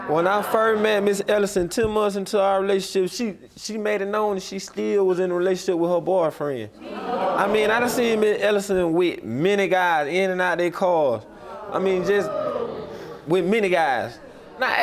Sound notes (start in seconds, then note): 6.9 audience groaning